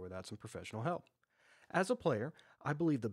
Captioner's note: pause